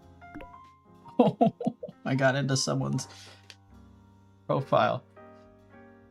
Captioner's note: chuckling